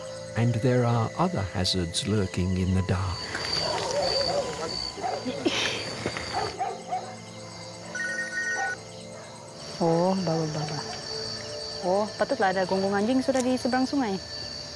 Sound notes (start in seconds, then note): 3.2 dogs bark; 7.9 telephone rings